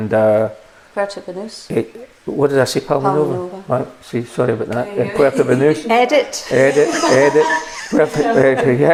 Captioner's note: laughter